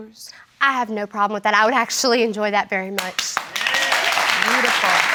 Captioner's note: audience applauding